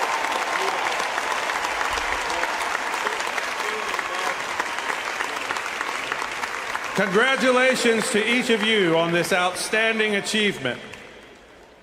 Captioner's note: applause